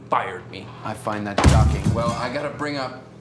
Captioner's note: glass clattering